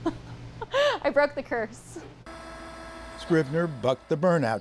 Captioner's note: laughter